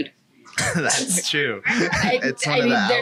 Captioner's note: laughs